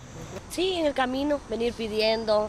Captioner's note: speaking spanish